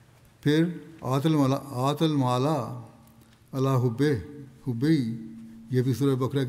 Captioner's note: Arabic